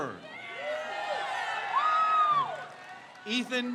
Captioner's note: crowd cheers